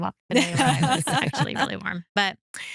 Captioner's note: laughs